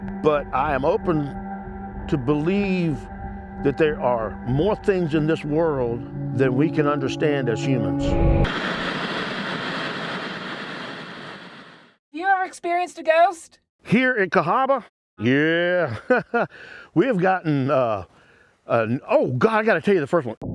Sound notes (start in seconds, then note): 8.4 static hissing; 15.3 chuckles